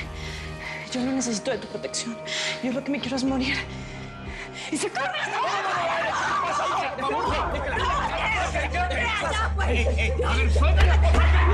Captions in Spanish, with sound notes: YO NO NECESITO DE TU PROTECCION. YO LO QUE ME QUIERO ES MORIR. [Gritos] - !YA PUES! - A VER, SUELTENLA.